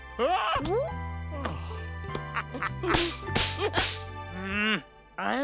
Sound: giggling; laughing

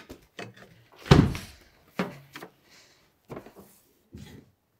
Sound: door thumping

